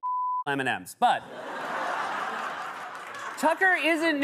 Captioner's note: laughter and applause